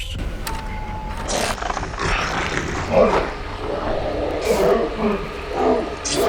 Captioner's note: film reel clacking; Rougarou roaring